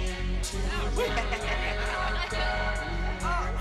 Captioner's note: bass beeping